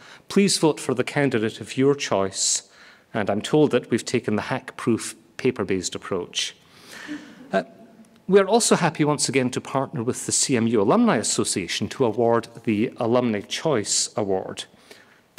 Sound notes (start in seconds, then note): 6.7 audience laughing